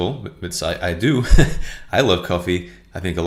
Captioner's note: laughs